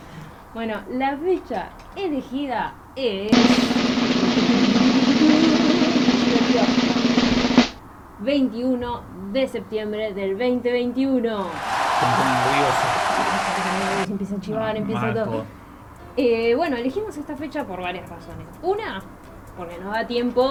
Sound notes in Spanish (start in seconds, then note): 3.3 redoblantes; 11.4 Aplausos